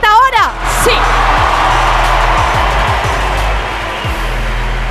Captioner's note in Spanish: Gritos